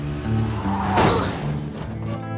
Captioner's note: crash